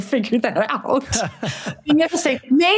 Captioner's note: panelists laugh